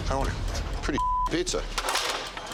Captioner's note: beep